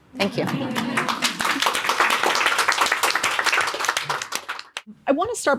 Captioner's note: audience clapping